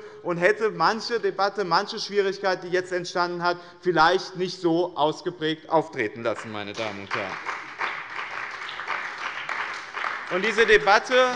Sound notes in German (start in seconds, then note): 6.2 Beifall bei dem BÜNDNIS 90/DIE GRÜNEN und der CDU